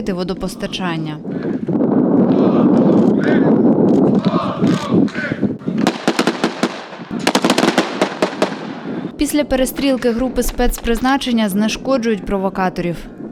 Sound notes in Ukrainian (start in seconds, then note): 1.4 звуки вітру; 5.7 лунають постріли